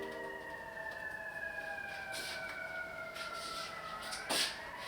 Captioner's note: sirens blaring